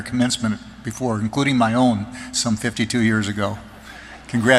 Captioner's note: laughter